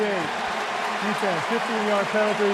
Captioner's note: cheering